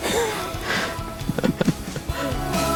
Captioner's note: both laughs